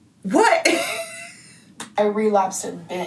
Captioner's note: laughs